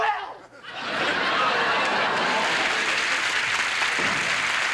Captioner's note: audience laughing and applauding